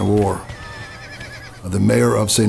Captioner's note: horses neighing